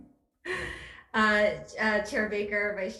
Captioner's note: laughs